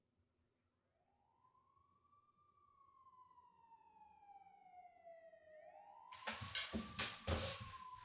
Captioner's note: police sirens